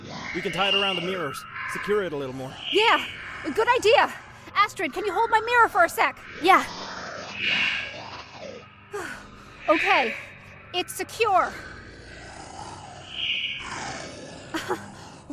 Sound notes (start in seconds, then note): 12.2 screams; 14.3 laughs